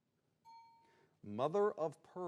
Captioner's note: bell dings